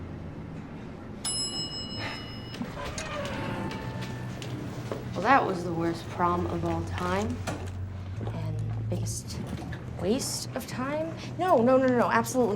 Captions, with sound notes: [elevator dings] - Well, that was the worst prom of all time. And the biggest waste of time. No, no, absolutely not.